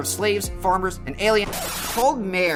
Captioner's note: record scratch